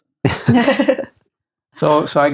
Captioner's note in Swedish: skrattande